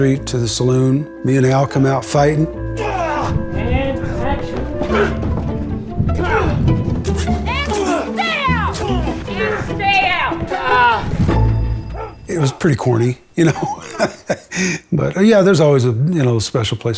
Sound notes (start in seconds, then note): 4.4 grunting